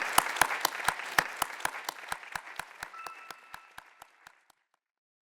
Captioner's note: audience applauds